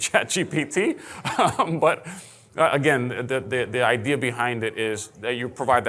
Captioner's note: laughing